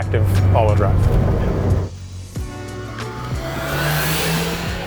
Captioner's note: engine revving